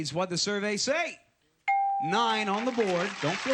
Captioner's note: ding